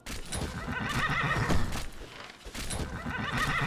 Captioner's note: horse whinney